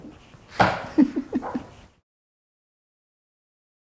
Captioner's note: laughing